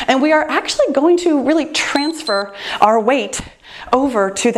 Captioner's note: timer beeps